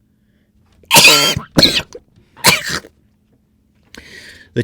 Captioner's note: Ethan Klein Cough™